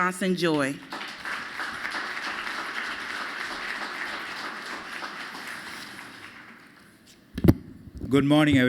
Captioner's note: applause